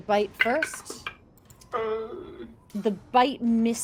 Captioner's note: dice rolls